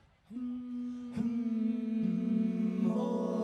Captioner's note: group hums